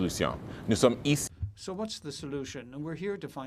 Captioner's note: speaking in French